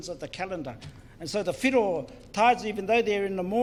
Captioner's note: foreign Language